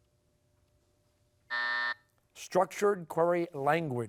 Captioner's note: buzzer sounding